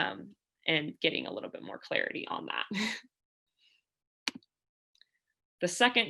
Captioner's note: laughter